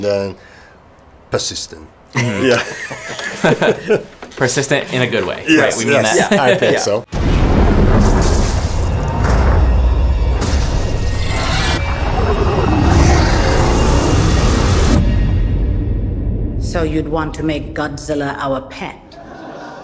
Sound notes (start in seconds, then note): 2.1 all three laugh; 9.9 buildings crumbling